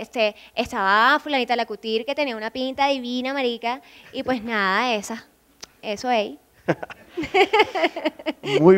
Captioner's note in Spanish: risas